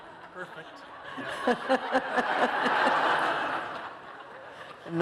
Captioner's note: laughter